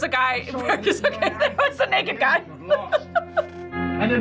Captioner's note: laughs